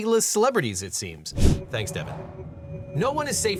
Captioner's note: air whooshing